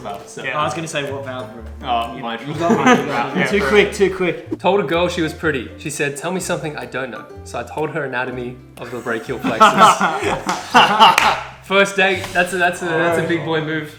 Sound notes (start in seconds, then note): 9.0 laughs